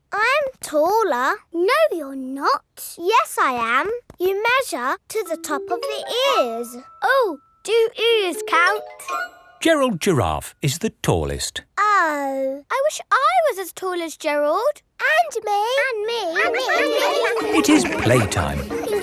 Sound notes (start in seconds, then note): 16.4 all laughing